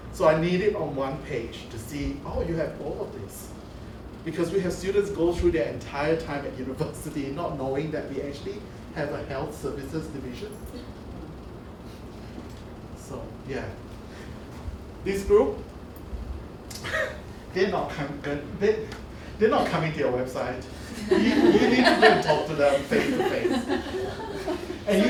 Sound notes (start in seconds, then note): 17.0 laughs; 20.8 laughter